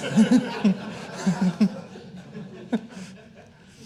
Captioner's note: all laughing